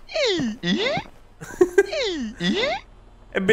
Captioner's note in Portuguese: Risos